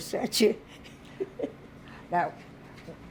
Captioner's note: laughing